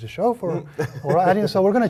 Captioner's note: laugh